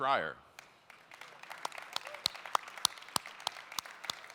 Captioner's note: applauding